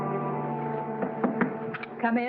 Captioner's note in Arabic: رجل يطرق